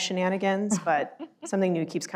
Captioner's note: laughs